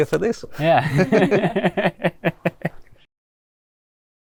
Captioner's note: laughing